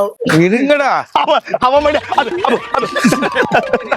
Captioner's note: lauhs